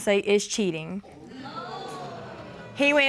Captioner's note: audience exclaiming